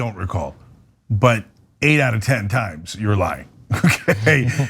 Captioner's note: laugh